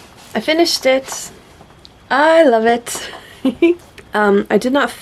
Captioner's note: giggles